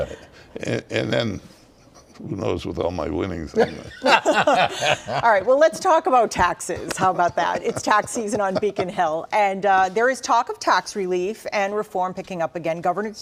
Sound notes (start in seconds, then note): 6.6 laughter